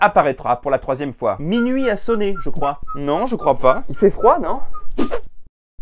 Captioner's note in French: Sifflote